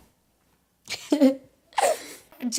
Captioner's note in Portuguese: risada